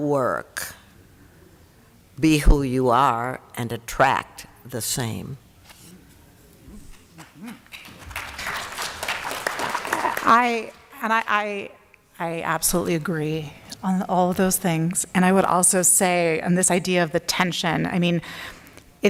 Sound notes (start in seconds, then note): 7.7 applause